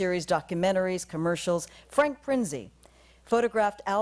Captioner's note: none